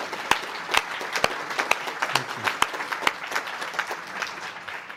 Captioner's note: applause